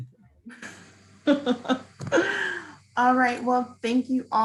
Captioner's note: laughing